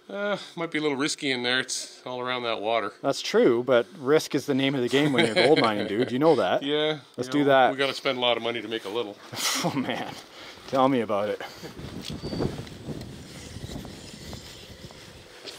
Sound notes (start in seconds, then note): 11.6 roaring wind